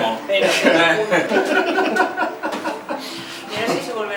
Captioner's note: laughs